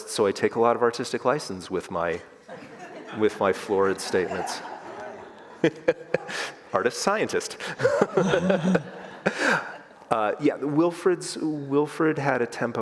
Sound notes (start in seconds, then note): 5.2 all laugh; 7.6 laughs